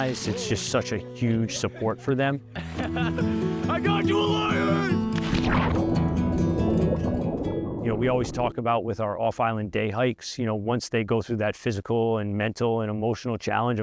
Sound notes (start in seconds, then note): 2.6 chuckling; 5.0 water splashes